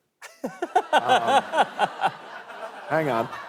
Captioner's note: laughter